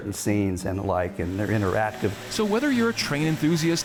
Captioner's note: model train whirs